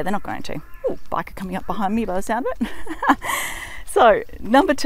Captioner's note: laughs